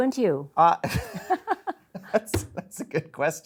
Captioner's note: both chuckles